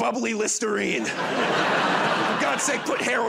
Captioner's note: laughter